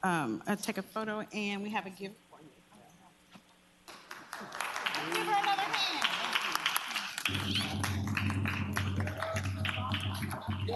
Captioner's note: applause